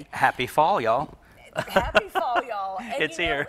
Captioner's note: laughs